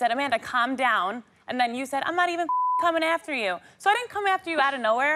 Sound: beep

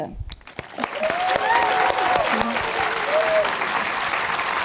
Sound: audience applauding

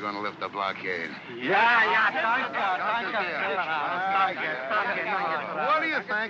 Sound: speaking excitedly in German

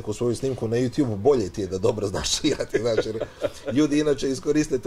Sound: laughs

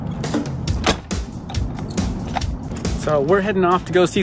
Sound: door slamming; key jingling

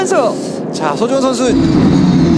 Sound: bam !

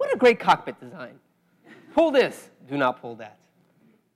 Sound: laugh

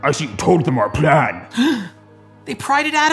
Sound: gasps

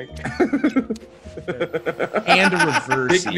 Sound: laugh

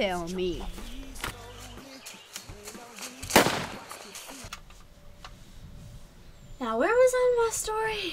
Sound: gunshot

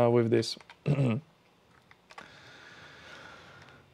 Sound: clears throat

